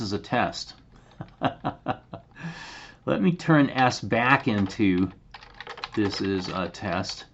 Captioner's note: laughter